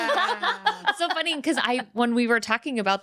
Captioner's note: laughing